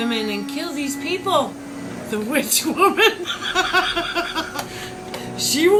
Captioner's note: laughing